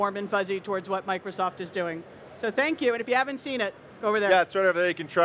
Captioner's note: none